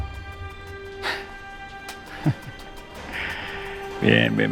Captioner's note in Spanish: Risas